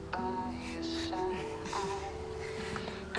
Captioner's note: soft music; chuckling